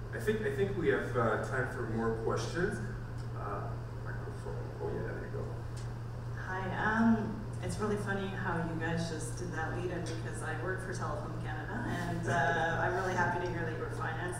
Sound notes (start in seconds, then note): 6.6 voiceover